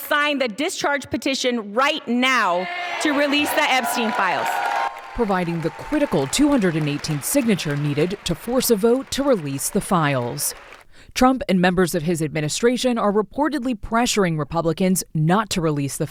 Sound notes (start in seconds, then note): 5.2 cheering